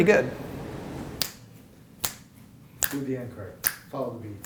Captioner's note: snaps